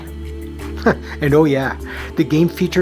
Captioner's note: chuckle